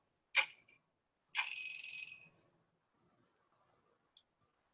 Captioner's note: alarm ringing